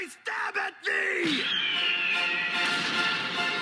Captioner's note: pterodactyl screeching